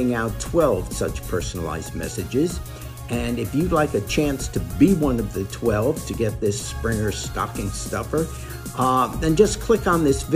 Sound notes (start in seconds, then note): none